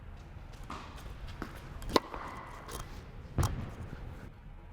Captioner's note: tennis ball popping